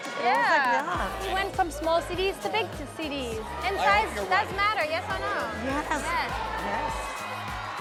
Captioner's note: cheering